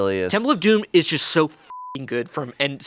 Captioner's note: beep